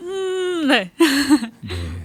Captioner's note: laughs